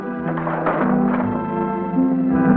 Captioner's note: dramatic music; chest opening; dramatic music